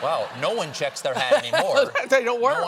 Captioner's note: laughter